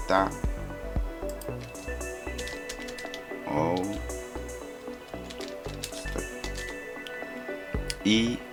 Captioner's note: typing